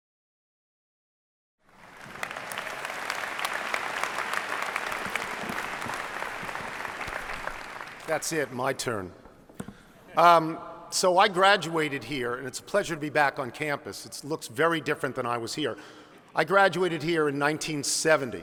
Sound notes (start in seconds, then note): 1.8 clapping